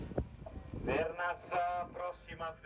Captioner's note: speaking in foreign language